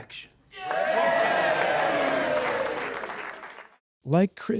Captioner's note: group cheers and applauds